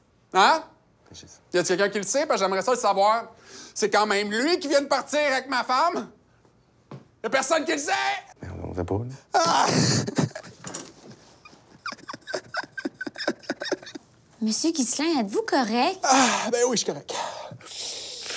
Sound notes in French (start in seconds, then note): 6.6 en criant; 9.3 sanglots